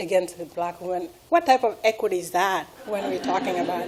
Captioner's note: laughing